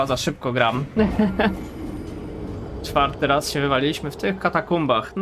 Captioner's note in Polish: śmiech